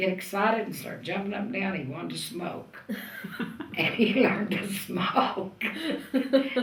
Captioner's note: laughter